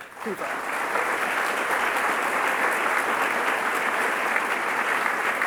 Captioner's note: audience applauding